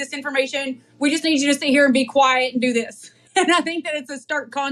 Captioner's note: laugh